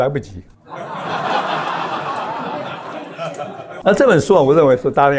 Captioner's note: laughs